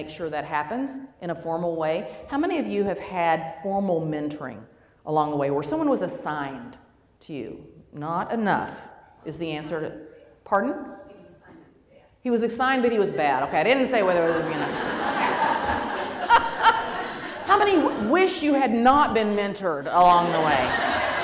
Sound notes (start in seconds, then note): 10.4 voiceover; 14.0 laughter